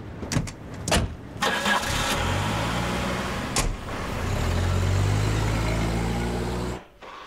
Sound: car engine sounds

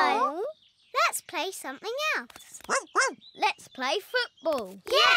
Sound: barks

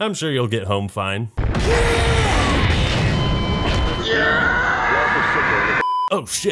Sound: explosions, zombie screams and other chaotic sounds

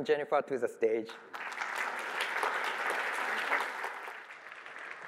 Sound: applause

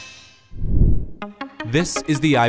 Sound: whooshing

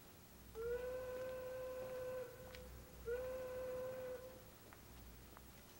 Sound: train horn whistling

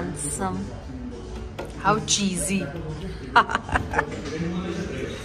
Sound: giggles

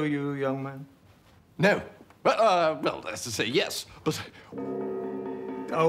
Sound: gong

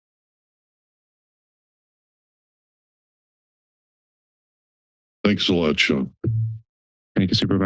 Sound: silence

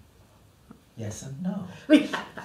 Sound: laughter

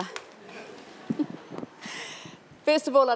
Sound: audience laughter

